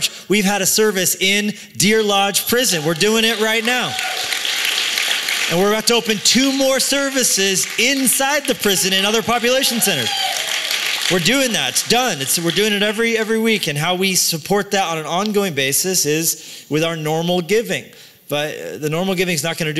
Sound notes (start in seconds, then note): 3.9 cheering; 4.4 applause